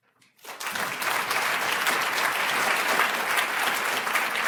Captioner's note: audience applauding